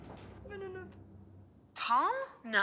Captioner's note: Charlotte cries